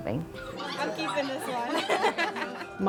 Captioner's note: dogs whining; laughing